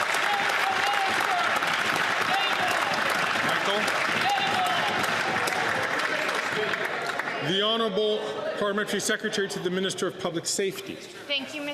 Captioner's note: some Applause